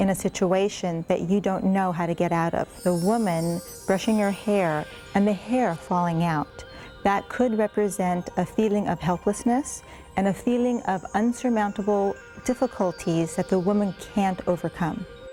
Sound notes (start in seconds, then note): 4.5 bells chiming